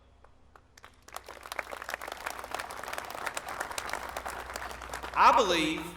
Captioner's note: applause